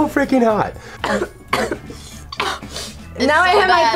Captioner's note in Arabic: تسعل